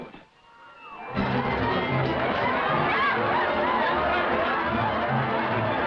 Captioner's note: partygoers shouting and laughing